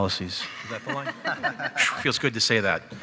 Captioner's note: panel laughs